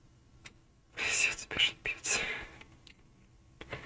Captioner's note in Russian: Шёпот с плохими словами